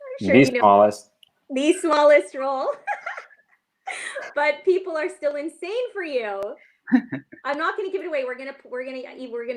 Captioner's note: laughs